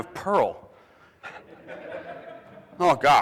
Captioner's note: audience laughing